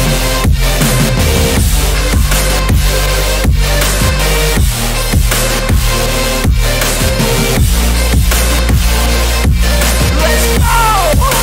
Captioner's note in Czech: až panická